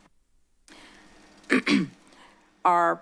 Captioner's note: clears throat